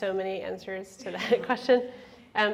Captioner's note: laughs